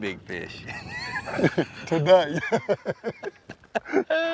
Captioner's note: guys laughing; laughing